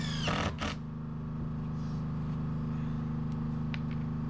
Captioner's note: drilling